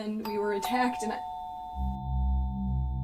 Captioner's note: doorbell rings